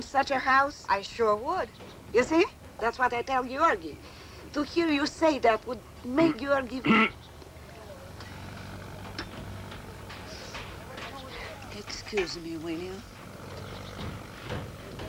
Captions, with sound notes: Wouldn't you be proud to live in such a house? I sure would. You see? That's what I tell Giorgi. To hear you say that would make Giorgi... [clears throat loudly] Excuse me, will you?